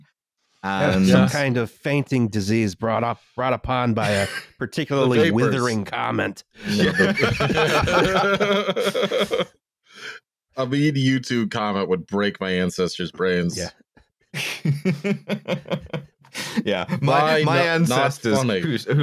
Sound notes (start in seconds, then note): 6.6 laughter; 14.4 chuckles